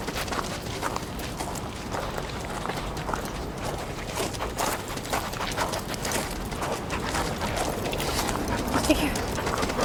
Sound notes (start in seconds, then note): 0.0 dog panting; 2.2 footsteps; 5.1 dog panting; 9.6 dog panting